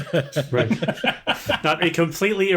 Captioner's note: laughter